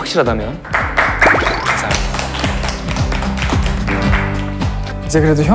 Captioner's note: applause